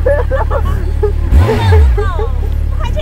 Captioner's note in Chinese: 哈哈哈